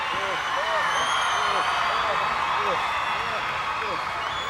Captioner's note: crowd cheers